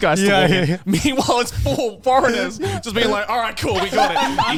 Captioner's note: men laugh